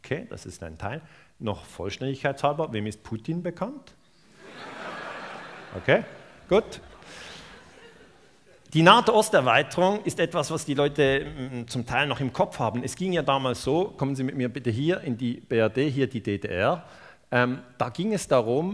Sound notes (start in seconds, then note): 4.3 laughter